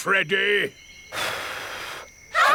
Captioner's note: blows